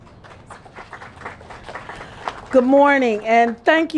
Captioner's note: applause